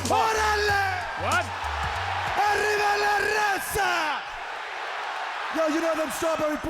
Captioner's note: Konnan speaking in foreign language